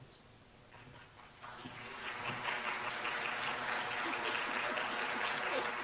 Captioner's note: applause